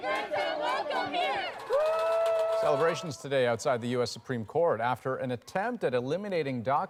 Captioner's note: chanting